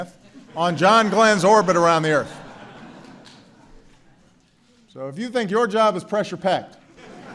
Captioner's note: laughter